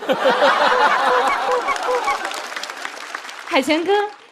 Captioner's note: quack quack quack